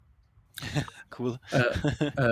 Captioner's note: laughs